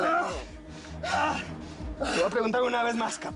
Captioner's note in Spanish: Quejidos